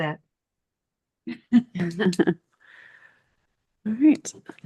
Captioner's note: board members chuckling